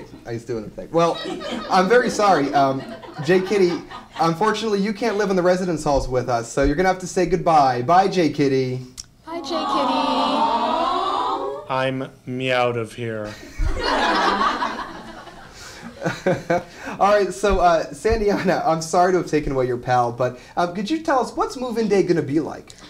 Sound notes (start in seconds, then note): 13.3 laughter